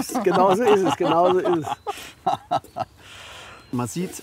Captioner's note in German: lacht